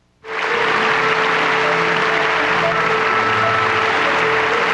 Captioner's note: applause